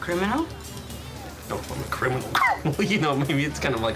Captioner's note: chuckles